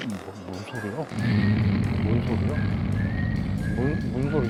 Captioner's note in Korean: 크으으으으응